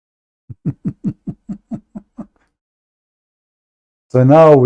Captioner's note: Ketawa